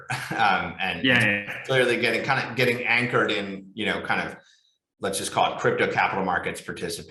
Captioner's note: chuckles